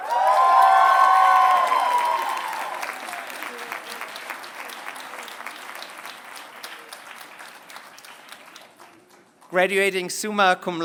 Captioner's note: applause